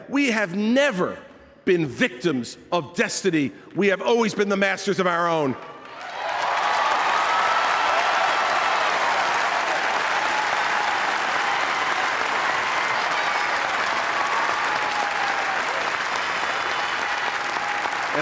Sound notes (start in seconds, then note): 11.7 applause